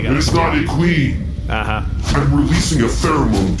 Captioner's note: flapping